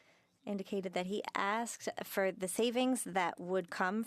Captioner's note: speaking French